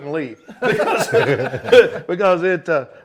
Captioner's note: everyone laughing